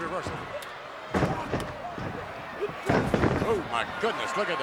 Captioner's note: feet stomping